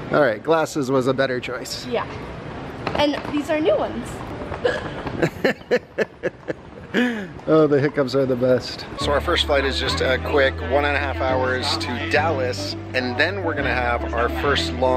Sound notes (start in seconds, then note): 4.6 hiccups; 5.2 laughs